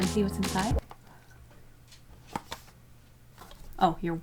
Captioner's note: awkward silence